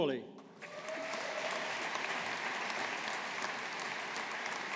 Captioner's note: audience applauding